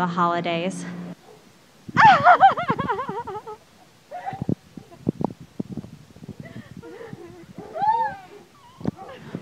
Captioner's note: crying